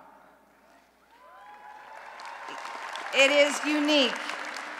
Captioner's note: applause and Cheering